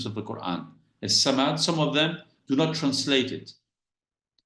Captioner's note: speaks Arabic